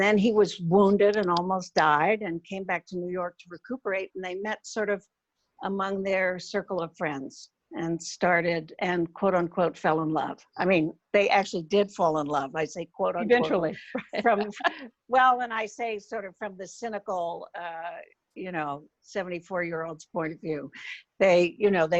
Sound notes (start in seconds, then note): 14.1 laughs